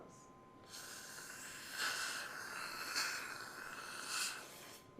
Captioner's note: suction tube hums